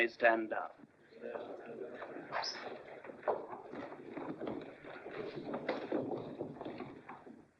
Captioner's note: muffled chatter